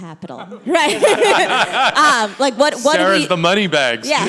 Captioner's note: people laugh